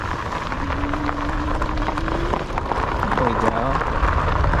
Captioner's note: bicycle clinking